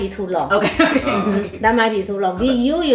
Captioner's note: laughs